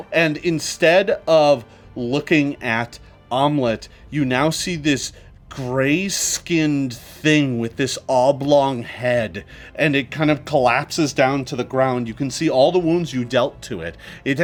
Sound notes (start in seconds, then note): none